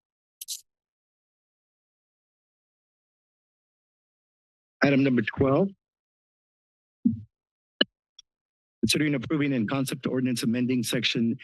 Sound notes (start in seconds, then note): 0.2 silence; 5.9 silence; 7.1 microphone thump noise